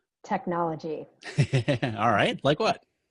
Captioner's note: laughing